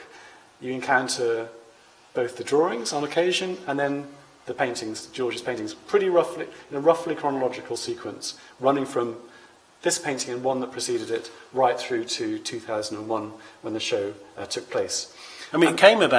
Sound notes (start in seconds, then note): none